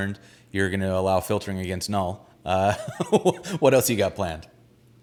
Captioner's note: laughs